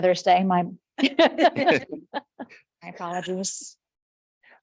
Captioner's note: people chuckle